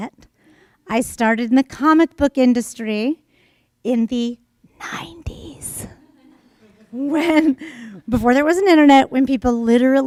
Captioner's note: whispers